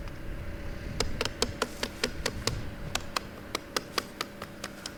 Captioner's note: tool knocking